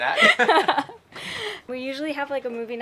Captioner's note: both laughing